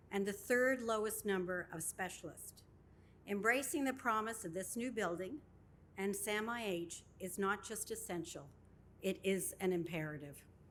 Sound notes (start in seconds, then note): none